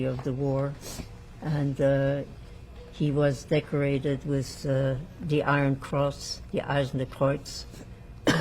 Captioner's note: german